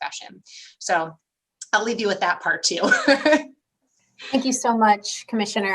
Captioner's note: laughter